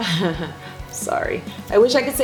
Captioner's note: laughs